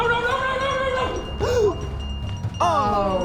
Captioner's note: gasp